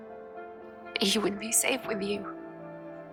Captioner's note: voiceover